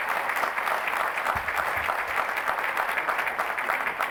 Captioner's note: applause